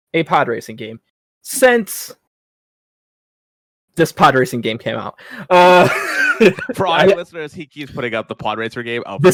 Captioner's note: laughing